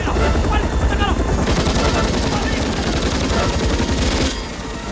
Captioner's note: Korean; machine Guns Firing; shouting Continues